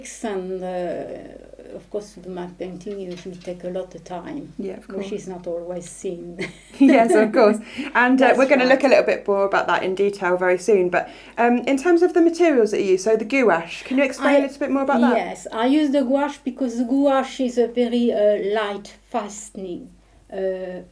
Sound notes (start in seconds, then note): 6.3 chuckling